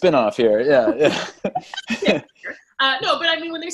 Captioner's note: all laugh